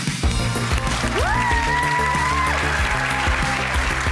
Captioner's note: applause